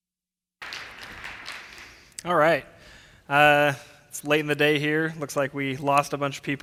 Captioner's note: applause